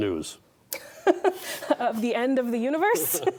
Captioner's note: laughing; both laughing